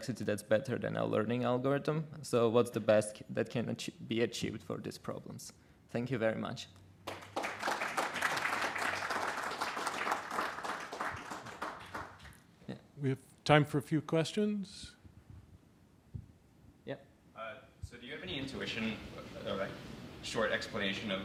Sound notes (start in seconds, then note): 7.0 applause